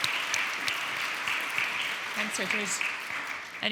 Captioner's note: audience applauding